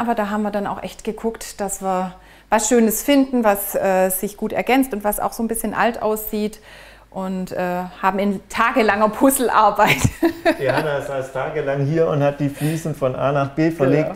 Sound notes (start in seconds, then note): 9.8 laughing